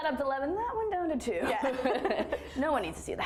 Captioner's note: both laughing